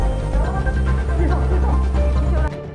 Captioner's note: intense music; speaking in foreign language